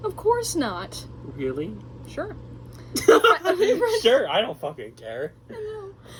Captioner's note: laughs